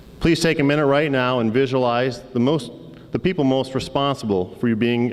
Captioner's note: none